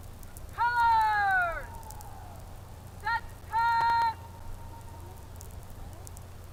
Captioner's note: shouted commands